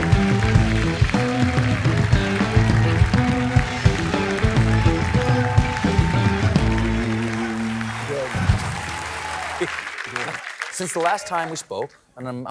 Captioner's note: applause